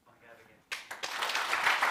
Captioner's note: applause